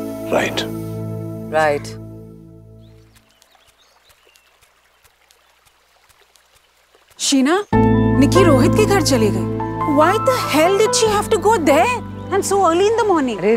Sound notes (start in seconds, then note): 2.9 footsteps